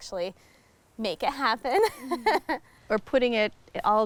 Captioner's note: laughing